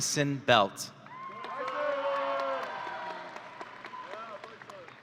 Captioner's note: audience cheering